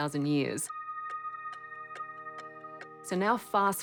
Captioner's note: clock ticks